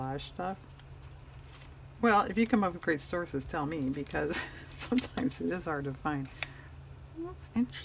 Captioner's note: laughs